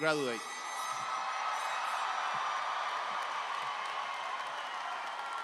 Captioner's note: audience applauding cheerfully